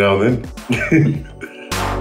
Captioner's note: laughs